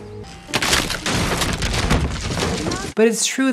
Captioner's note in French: crac !